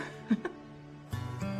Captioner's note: laughs